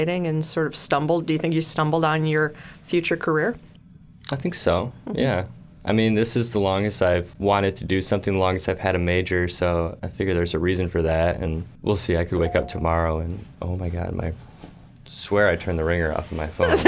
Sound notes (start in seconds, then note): 12.4 phone chimes